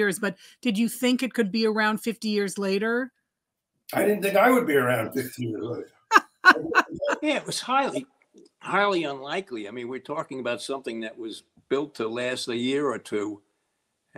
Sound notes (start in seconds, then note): 6.1 laughing